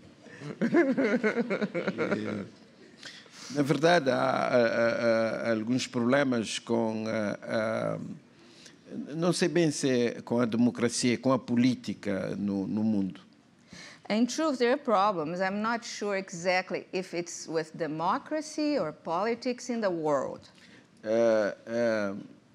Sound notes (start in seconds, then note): 0.4 laughs; 5.1 speaking portuguese